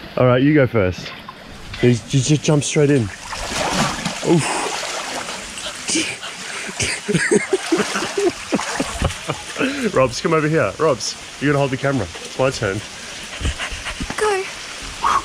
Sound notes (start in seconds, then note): 5.6 laughs